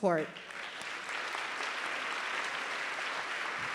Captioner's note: applause